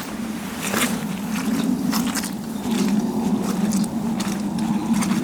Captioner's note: squelchy. moist footsteps